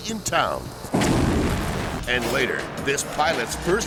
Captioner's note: explosion booms